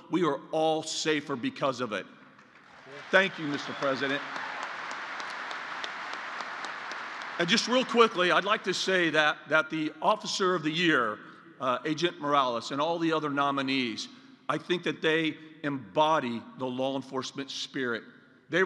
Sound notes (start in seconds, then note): 2.4 applause